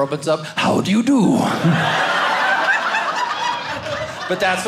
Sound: audience laughing

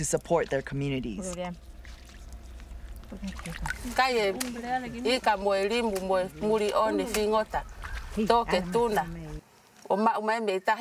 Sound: foreign Language

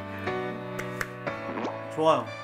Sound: claps

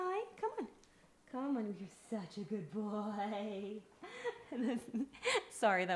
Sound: laughs

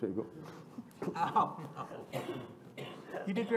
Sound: laughter

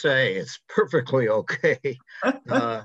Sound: chuckles

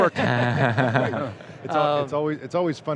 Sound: laughter

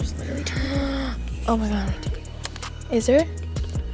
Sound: gasping

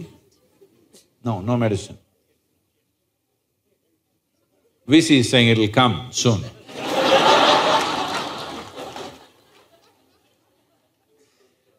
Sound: laughter

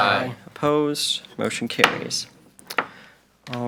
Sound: gavel taps

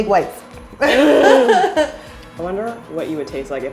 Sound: laughing

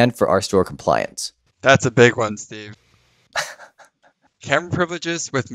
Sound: chuckles

